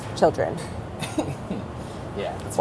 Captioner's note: laughing